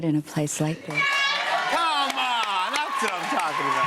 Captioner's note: cheers and applause